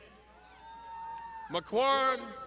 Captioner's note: crowd shouting